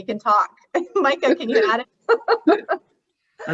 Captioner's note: laughs